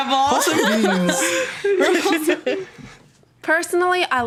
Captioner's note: laughing